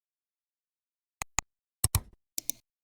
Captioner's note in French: 3 différents clics